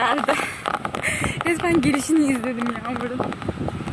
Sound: rain

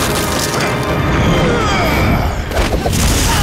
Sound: grunting

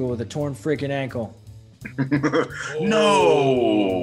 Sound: laugh

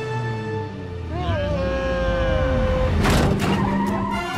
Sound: slow motion yelling

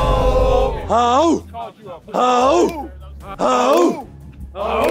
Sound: clapping and chanting

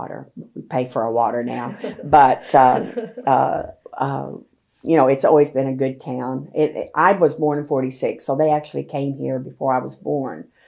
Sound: laughter

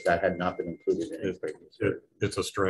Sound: phone dinging

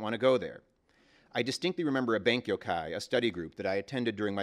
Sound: japanese

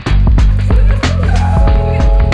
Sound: laughter

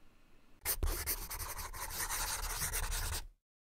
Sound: scribbling

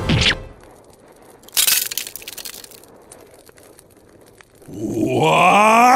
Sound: glass cracks

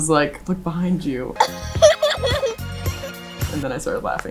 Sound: laughing

